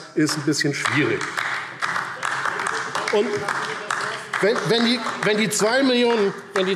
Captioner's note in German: Beifall DIE LINKE - Zuruf AfD